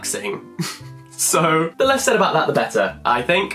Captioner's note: chuckles